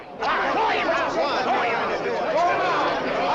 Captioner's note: shouted recriminations